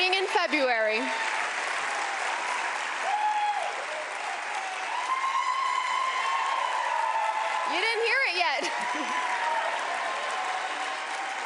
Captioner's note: cheers and applause